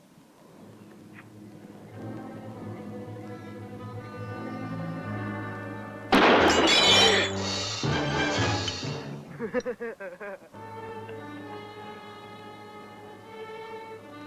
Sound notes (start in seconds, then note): 1.9 ominous instrumental music; 6.1 gunshot